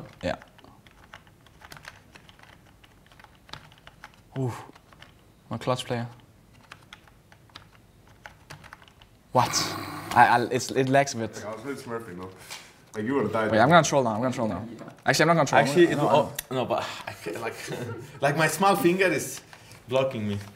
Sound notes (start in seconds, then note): 9.4 snorts; 16.7 sighs; 16.9 giggles